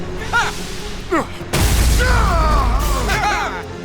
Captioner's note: wincing